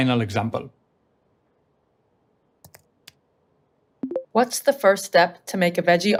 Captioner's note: keyboard clicking; speech activation sound